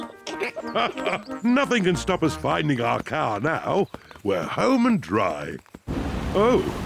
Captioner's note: laughs; snorts and giggles